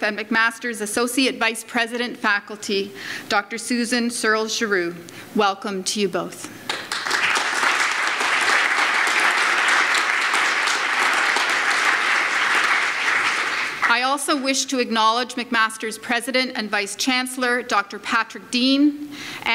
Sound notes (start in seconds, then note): 6.6 audience applauds